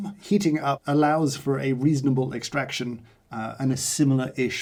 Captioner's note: none